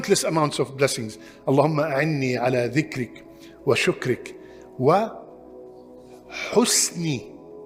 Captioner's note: Arabic